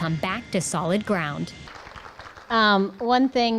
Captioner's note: applause